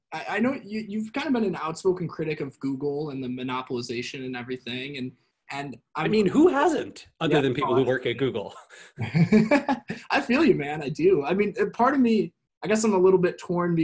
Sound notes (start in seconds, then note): 8.9 both laugh